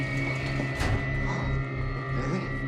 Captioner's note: Sinclair gasps